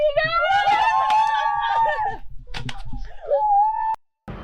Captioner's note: mourning